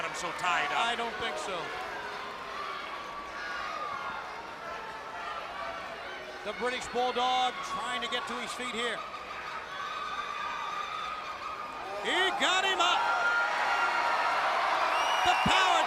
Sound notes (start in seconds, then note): 4.0 crowd chatter; 13.4 crowd cheering